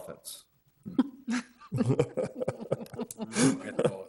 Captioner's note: group laughing